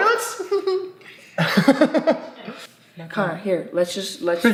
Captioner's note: both laughing